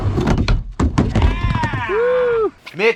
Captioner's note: groaning; cheering